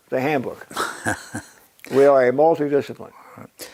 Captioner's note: laugh